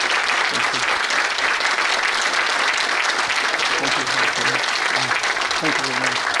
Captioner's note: audience applauding